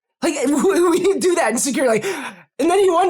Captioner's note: laugh